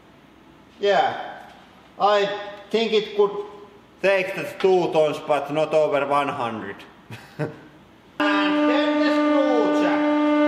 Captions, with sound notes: Yeah. I think it could take the two tons, but not over one-hundred. [Chuckle] And then the screw jack!